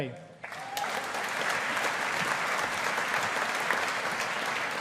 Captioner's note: audience applauding